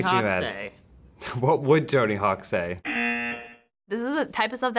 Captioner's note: buzzer